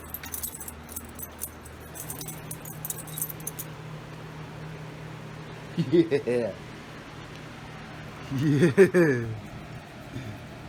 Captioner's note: Ella laughs